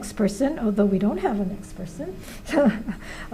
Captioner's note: laughs